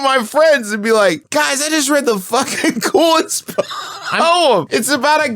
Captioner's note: dissolves into laughter